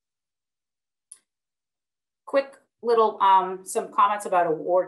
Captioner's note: clicking